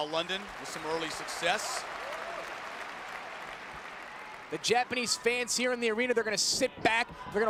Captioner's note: applause